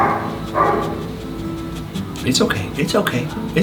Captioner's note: sniffing